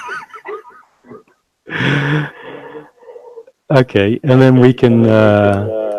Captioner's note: laughs loudly